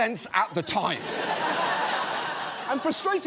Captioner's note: studio audience laughs